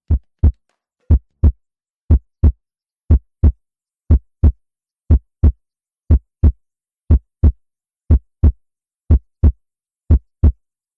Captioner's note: heartbeat